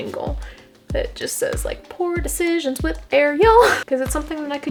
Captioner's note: sing song